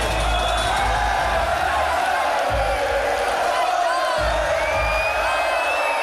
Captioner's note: crowd chanting "Ole, Ole, Ole"